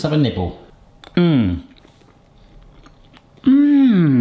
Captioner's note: moans